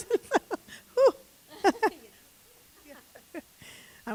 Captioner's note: laughing